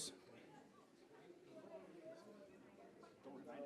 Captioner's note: general chatter